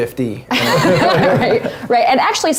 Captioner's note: laugh